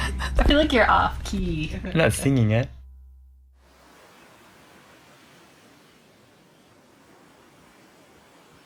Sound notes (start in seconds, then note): 0.0 laughs; 3.6 wind blows